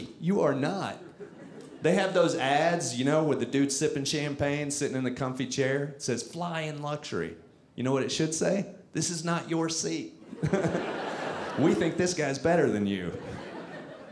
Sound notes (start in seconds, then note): 10.3 audience laughing